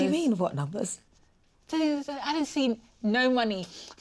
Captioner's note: stammers